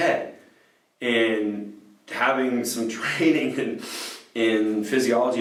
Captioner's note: sniffs